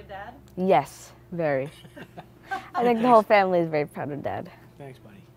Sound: laugh

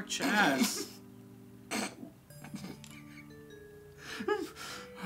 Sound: laughing

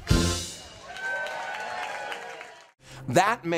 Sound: crowd cheering

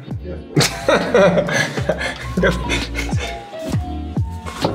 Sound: Terence laughs

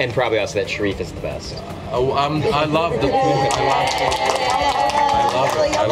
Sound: applause

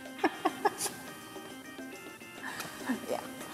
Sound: laughs

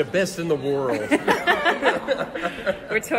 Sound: laugh

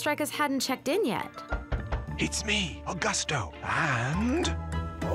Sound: knocking

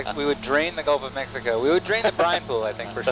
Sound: scientist chuckling

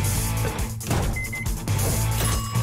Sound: beeping; dinging

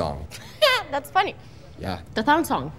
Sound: laughs

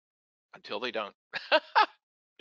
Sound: laughs

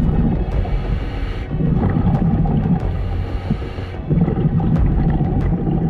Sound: dramatic music; diver inhaling

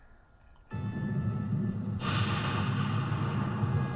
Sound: game sounds, thunder and lightning, music

